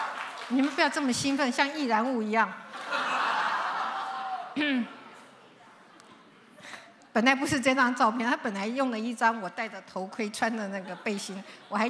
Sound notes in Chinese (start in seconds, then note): 2.6 笑聲